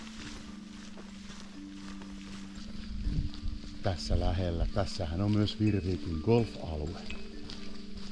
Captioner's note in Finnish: askelten ääniä